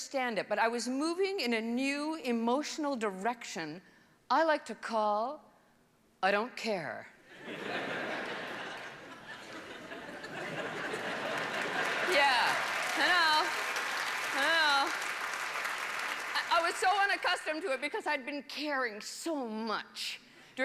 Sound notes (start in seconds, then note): 7.3 laughter; 12.2 applause